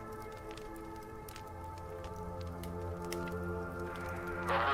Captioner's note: fire crackling